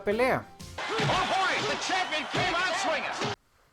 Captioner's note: public cheering. Strong punches